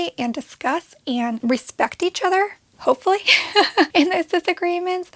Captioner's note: laughs